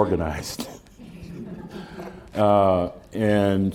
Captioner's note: laughter